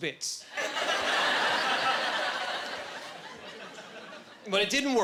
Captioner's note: laughing